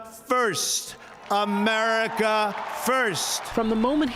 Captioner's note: cheering and applause